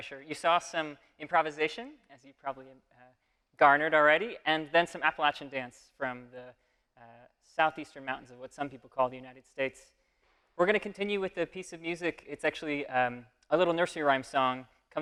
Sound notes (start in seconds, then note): none